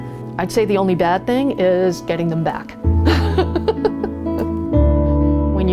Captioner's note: laughs